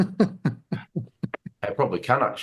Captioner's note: laughing